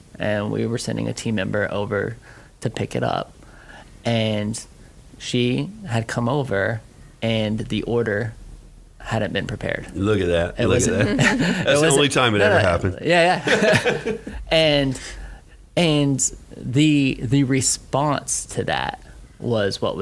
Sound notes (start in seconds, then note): 13.2 laughing